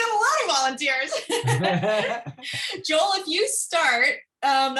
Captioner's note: laughter